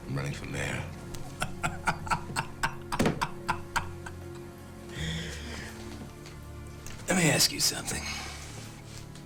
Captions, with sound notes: I'm running for mayor. (Lamont laughs) - Let me ask you something.